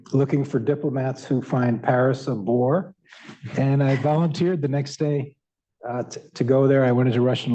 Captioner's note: laughter